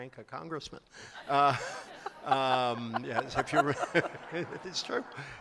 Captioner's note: laughter